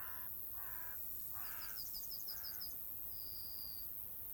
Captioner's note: bird cawing